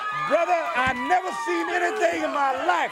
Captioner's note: crowd chatter